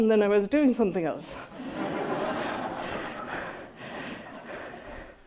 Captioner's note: audience laughing